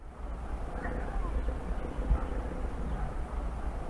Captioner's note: wind blows